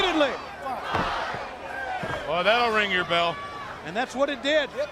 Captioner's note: crowd chatter